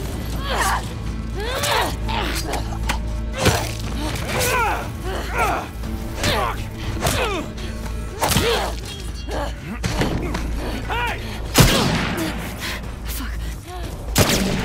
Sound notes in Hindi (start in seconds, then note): 11.2 धमाका